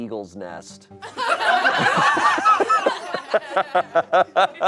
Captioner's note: audience laughing